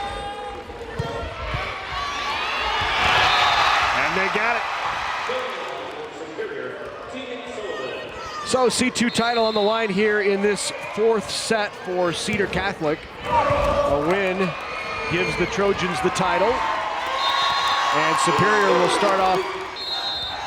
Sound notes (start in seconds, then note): 1.6 crowd and players cheering; 1.9 players yelling; 17.4 crowd cheering